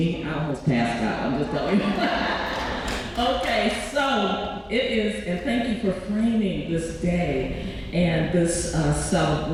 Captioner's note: laughs